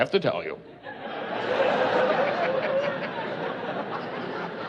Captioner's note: laughing